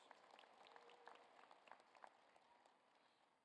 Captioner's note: applause